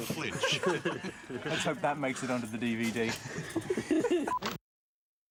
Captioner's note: laughs